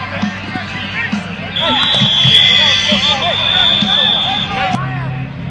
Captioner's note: whistles blowing